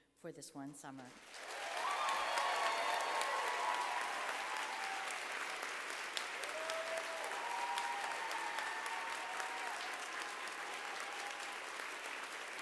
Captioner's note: applause